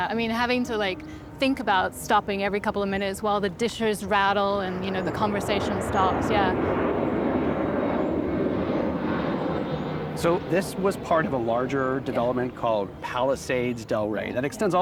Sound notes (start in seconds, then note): 6.8 airplane sounds